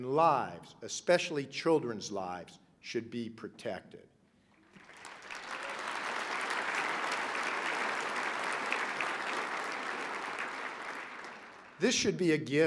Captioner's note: applause